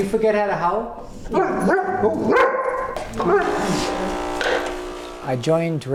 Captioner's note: Grace barking back at Eric